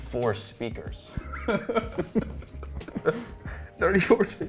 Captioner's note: laughing